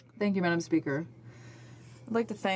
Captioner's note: speaking French